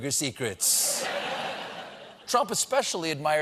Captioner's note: laughter